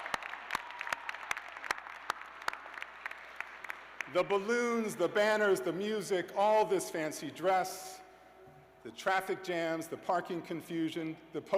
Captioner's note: laughter and applause